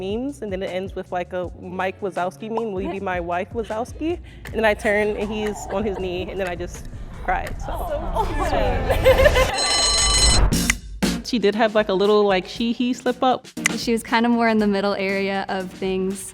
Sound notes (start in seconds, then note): 7.6 woman laughs; 9.4 bell rings